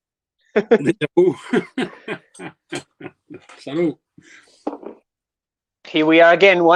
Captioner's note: laughter